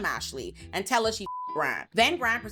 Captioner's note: beep